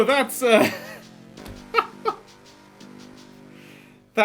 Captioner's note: laughing